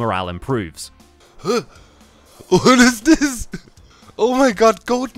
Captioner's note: gasps